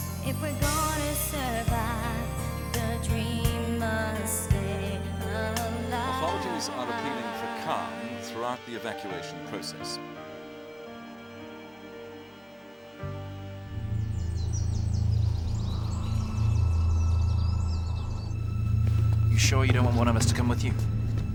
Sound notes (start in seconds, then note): 13.6 birds chirping; 13.6 slow dramatic music